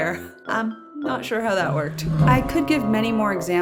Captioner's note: confused growl